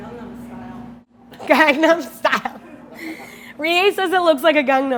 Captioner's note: laughing